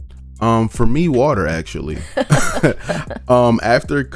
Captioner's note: both laugh